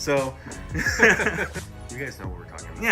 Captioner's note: laughing